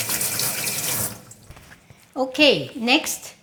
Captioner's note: water running